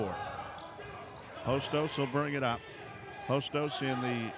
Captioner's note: yelling